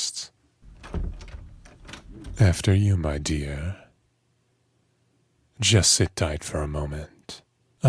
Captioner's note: door opens